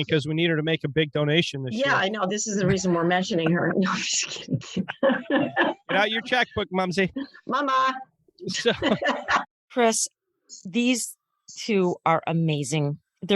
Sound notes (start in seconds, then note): 8.4 siblings laughing